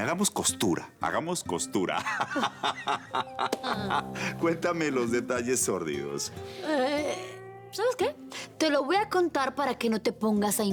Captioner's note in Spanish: Risas